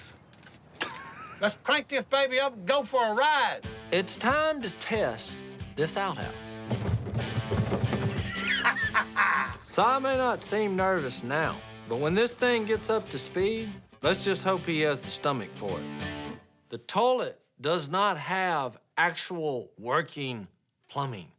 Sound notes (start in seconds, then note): 0.8 laughing; 6.5 banging; 7.9 laughing